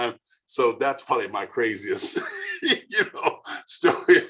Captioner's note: laughing